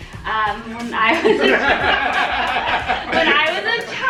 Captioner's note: laughter